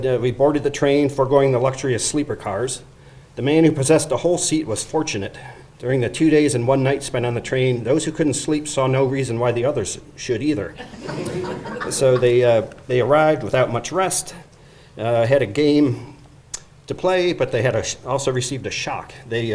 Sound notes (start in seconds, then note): 10.8 audience laughing